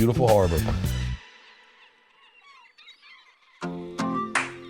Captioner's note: gulls cawing